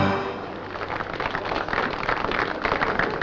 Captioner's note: applause